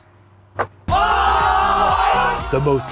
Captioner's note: guys cheering